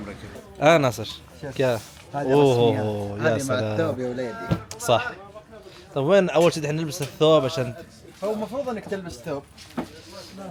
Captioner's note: Arabic